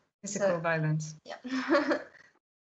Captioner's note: laughs